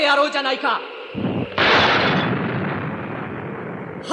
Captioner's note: SFX: explosion